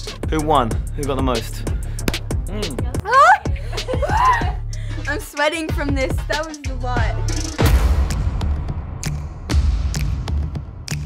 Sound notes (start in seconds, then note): 4.2 gasps; 7.1 rhythmic music